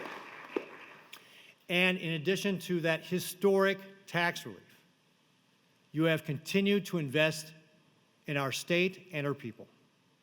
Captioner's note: applause